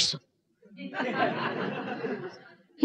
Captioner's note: laughter